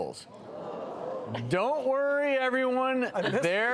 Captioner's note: crowd booing